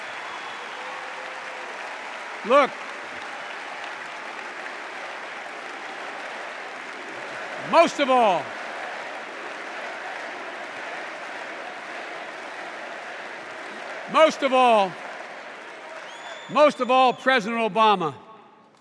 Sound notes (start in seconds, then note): 4.2 applause